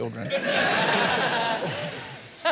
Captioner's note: laughter